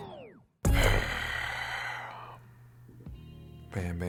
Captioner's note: groaning